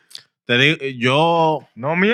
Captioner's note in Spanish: Hablando en idioma extranjero